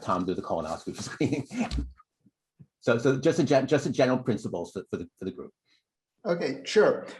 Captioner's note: laughter